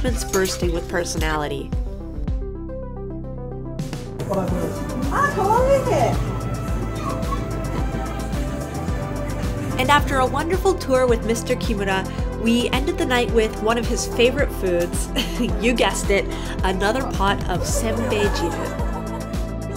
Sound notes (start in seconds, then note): 1.7 upbeat music; 4.1 speaking in foreign language